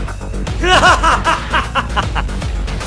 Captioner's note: laughs